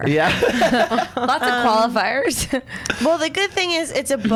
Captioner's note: laughs